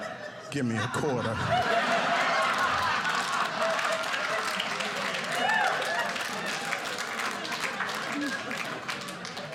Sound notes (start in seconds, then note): 0.0 audience laughing; 2.1 audience applauding